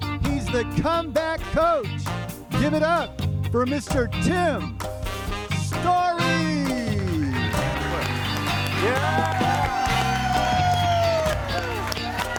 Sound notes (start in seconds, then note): 6.7 audience applauding; 6.8 spirited music